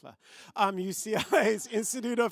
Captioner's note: laughter